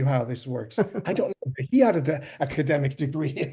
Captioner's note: laughs